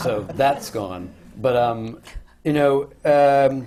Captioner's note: laughter